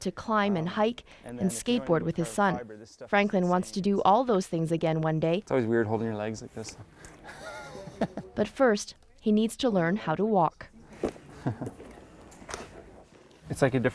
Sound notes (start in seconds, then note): 6.8 laughing